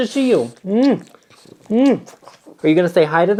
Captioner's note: smooches loudly